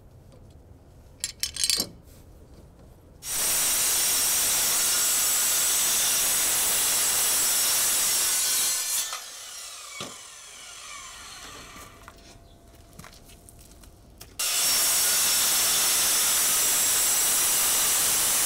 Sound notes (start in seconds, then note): 4.0 metal grinding